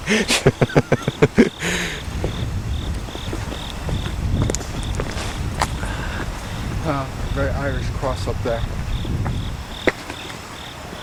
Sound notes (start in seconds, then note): 0.0 laughing; 4.0 footsteps & Cricket Noises